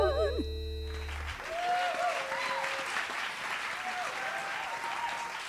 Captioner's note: applause